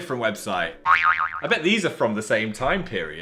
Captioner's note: boing sound plays